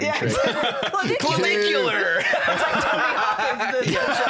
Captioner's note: laughs